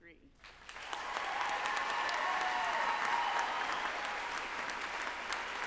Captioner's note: group applauding and cheering